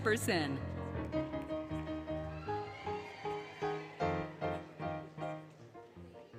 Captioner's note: applause, Cheering, Music